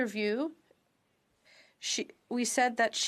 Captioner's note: speaking French